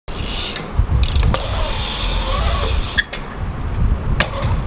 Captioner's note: bike wheels whirring